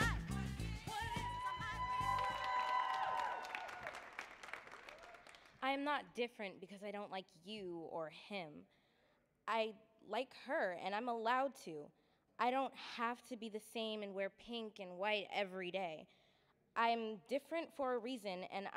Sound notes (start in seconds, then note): 2.7 audience cheering and applauding